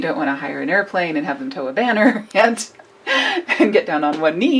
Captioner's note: laughs